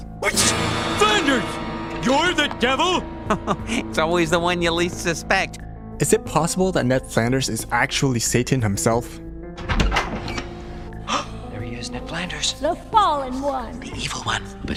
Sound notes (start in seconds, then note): 3.3 chuckle; 11.1 gasp